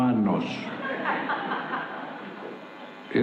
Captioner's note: laughter